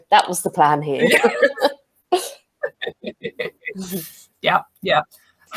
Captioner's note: laughs